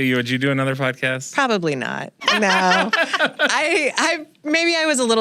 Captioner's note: laughter